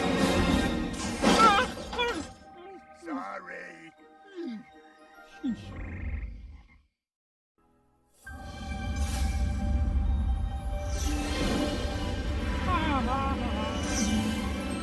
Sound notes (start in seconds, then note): 1.4 grunts, whimpers; 12.4 laughing